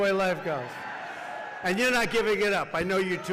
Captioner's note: applause